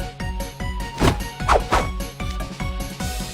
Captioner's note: punch punch